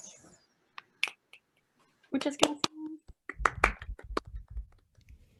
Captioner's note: applause